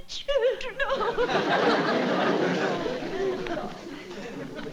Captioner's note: crying